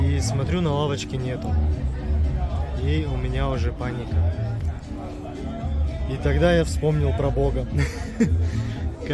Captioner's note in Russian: смех